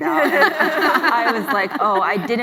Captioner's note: laughs